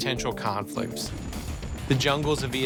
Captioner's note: helicopter whirring